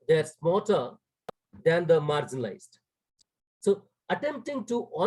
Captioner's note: audio cuts out